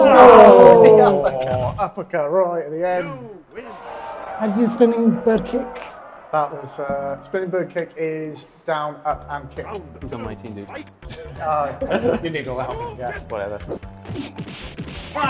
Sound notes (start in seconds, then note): 2.9 crowd cheers; 11.0 chuckles; 13.9 limbs whooshing; 15.1 legs thudding